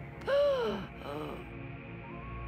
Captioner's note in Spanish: Sarah respira con dificultad